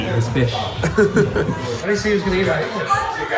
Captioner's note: laughs